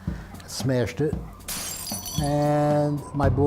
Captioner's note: glass breaking